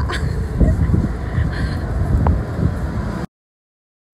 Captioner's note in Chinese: 一直笑～風很大很興奮？！😅